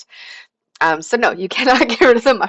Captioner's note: laughter